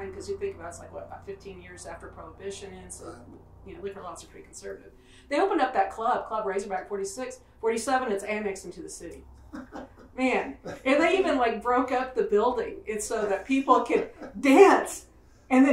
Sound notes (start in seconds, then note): 9.4 laughs